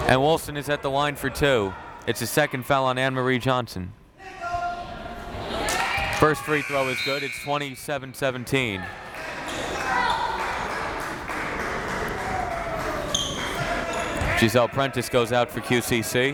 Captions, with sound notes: And Wilson is at the line for two. It's a second foul on Annmarie Johnson. (crowd members shouting) First free throw is good. It's 27-17. (crowd clapping) Gessell Prentice goes out for QCC